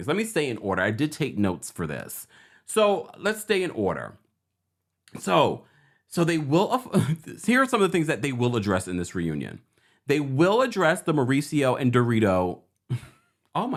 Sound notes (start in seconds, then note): 6.9 chuckles; 12.9 chuckles